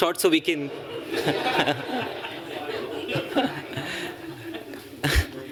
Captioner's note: laughter